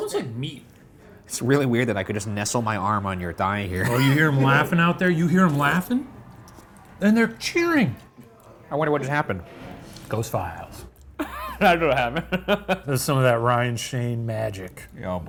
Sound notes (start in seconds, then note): 11.1 laughing